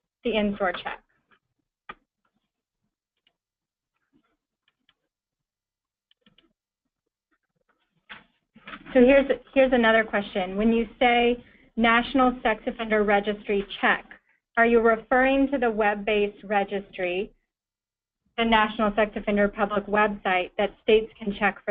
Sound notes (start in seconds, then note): 4.3 pause